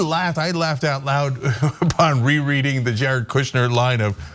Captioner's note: laugh